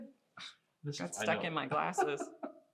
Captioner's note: laughing